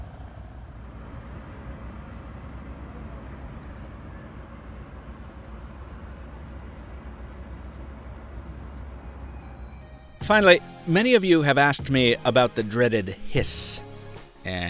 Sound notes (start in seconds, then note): 1.2 very distant traffic humming